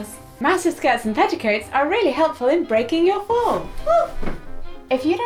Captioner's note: exclamation